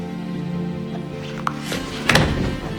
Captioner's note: June's knees crack